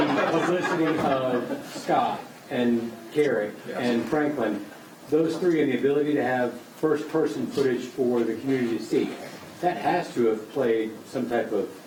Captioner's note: laughter